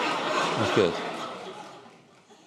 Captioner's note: laughter